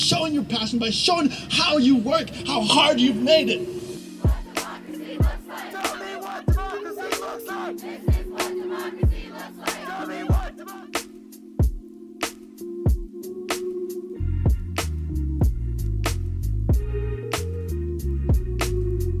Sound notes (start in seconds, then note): 4.0 bass thumping beat; 9.0 crowd Of People